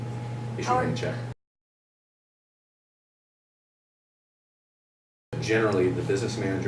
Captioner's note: silence